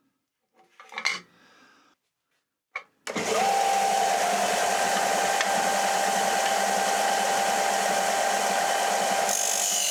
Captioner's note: drilling